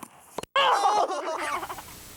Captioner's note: kids exclaim